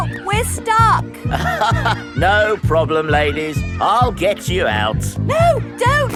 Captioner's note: chuckles